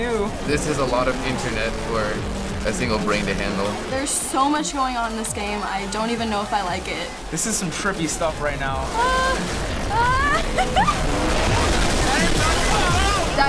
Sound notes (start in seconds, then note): 9.9 whimpering, giggles